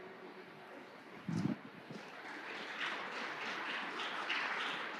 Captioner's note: audience clapping hands